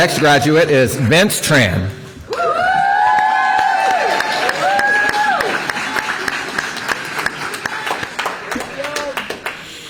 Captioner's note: applause